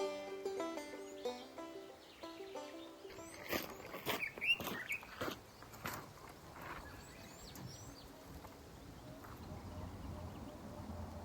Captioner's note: nature sounds. birds singing